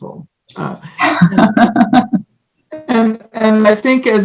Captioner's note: laughs